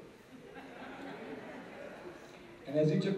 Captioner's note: laughter